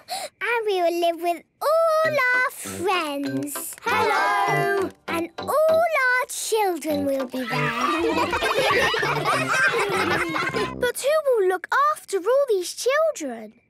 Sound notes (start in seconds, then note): 7.4 ruckus